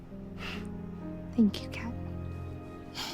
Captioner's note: Kat chuckles; sighs